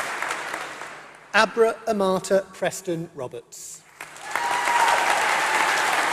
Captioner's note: applause